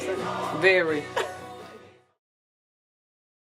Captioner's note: laugh